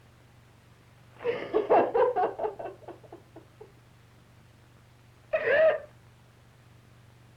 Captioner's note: crying